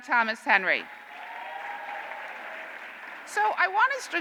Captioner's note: cheers and applause